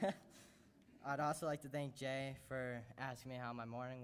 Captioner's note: laughter